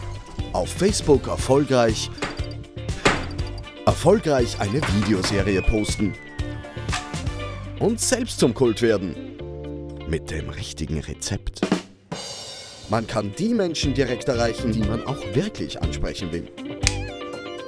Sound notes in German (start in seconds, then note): 6.8 klatsch; 11.5 badoom tsch!; 16.8 schnipp!